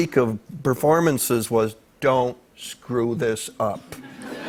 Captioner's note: light laughter